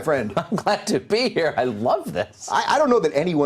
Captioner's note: laughs